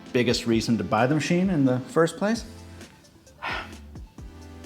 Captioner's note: sighs